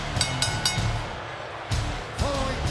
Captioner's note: bell ringing